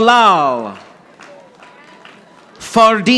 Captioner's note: audience applauding